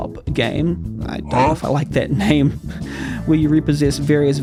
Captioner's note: laughs